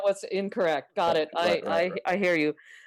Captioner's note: laughter